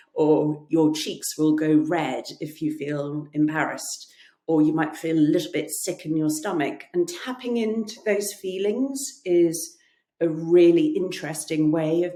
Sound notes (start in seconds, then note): none